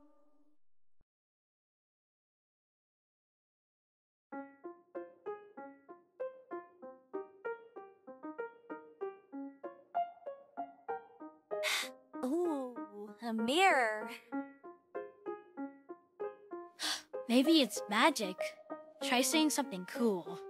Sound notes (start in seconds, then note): 11.6 gasps